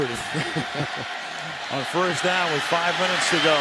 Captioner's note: laughter